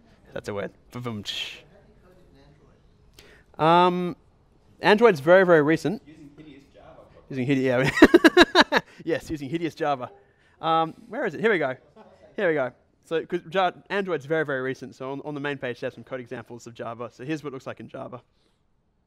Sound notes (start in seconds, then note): 1.7 voiceover; 6.1 voiceover; 7.8 laughs